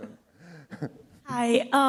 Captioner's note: laughter